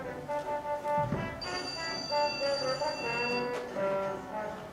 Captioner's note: telephone call